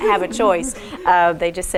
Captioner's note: all laugh